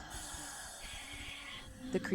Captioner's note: ghostly voice all around